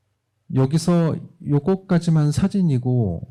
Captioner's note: speaking korean